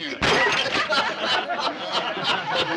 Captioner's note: all laughing